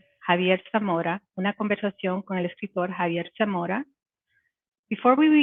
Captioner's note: speaking Spanish